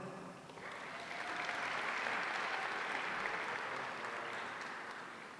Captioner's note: audience applauding